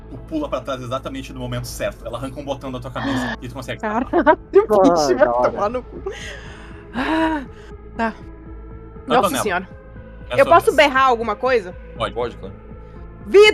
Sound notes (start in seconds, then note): 6.1 sigh